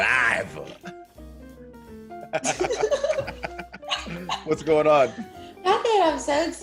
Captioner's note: laugh